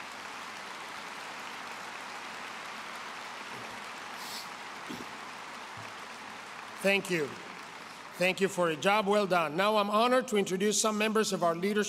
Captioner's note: applause